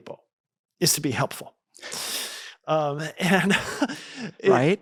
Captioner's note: laughs